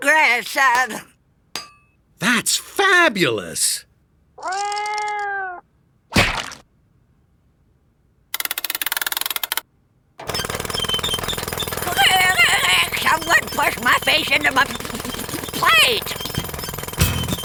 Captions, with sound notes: That’s my grandson. That’s fabulous! Mrow! (Drilling) Aah! Someone push my face into my plate!